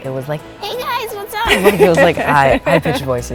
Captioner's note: high pitched voice